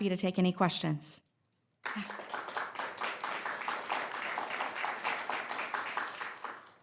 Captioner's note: applause